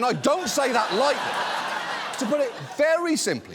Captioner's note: audience laughs